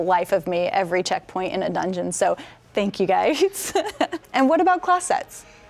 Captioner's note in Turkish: güler